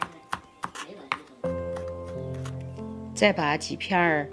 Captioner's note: cooking sound